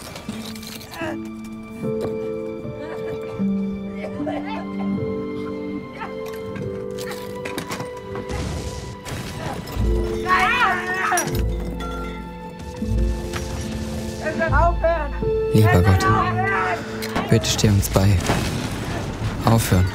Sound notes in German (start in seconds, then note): 0.3 Ächzen; 9.8 Schreie